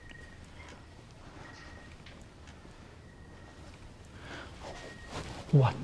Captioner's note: crickets chirping